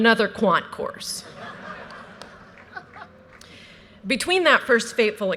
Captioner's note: audience laughter